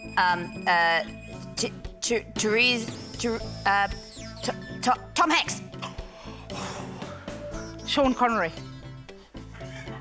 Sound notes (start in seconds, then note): 5.9 exhales heavily